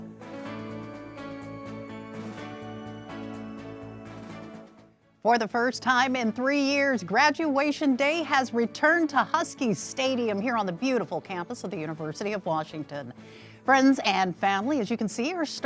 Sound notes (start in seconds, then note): none